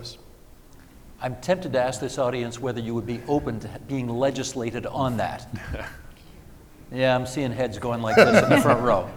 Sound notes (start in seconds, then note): 5.4 chuckling